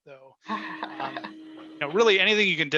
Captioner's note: chuckling